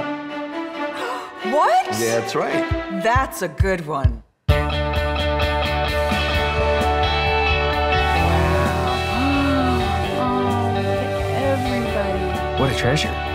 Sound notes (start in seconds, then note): 0.5 gasping; 5.6 upbeat music; 8.1 gasping